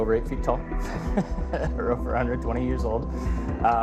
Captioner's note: laughs